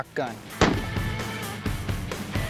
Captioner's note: gun fires